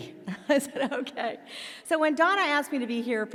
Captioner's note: laughs